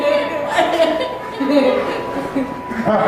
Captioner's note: laughter